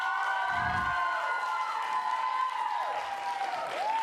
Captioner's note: applause